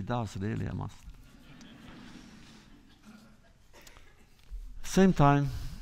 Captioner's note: laughter